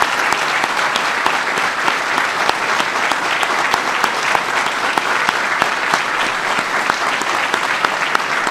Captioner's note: applause